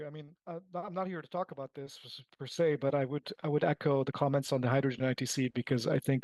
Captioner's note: speaking French